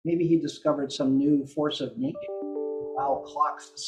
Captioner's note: computer sound